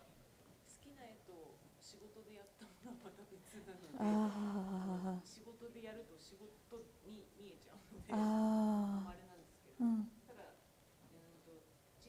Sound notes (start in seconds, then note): 0.5 speaking japanese